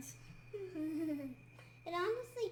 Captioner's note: kid chuckles